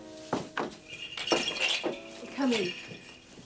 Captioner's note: bells jangle